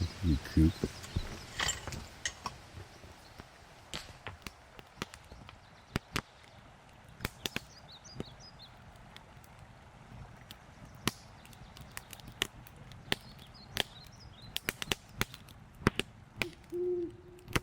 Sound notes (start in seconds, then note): 12.0 fire crackling